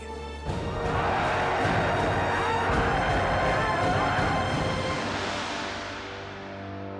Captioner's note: dramatic music; crowd cheering